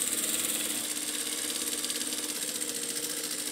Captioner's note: sewing machine whirring